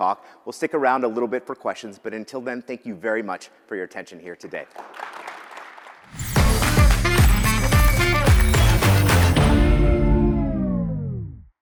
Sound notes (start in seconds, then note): 4.6 applause